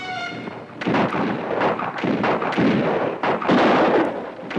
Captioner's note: guns fire